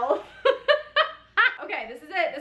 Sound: laughs

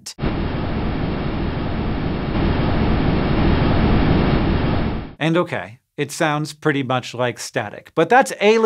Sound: audio of huygens descent

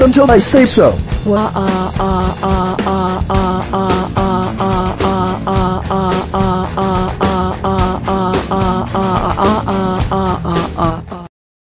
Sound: crying

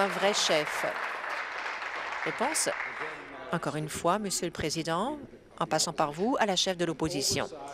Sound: applause

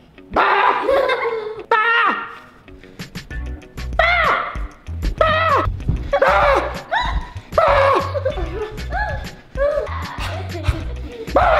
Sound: roaring

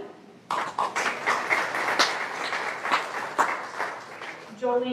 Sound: applause

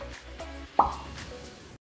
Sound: pop

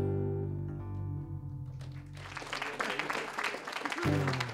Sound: applause

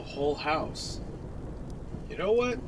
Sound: thunder

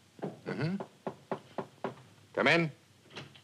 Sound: knocking on door

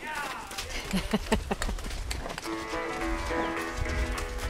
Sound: chuckles

